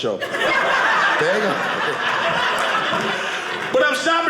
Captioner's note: audience laughing